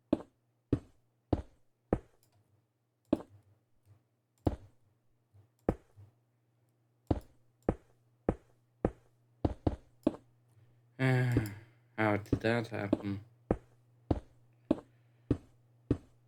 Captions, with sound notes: *Sigh*, how did that happen?